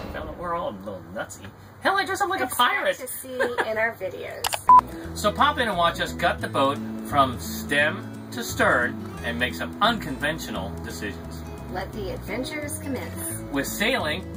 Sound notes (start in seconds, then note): 2.5 laughs; 4.5 beeping